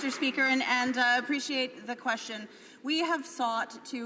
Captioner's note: some Applause